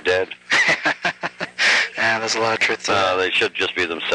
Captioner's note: laughs